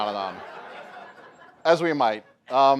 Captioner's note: laughter